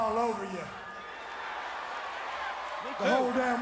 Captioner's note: crowd cheering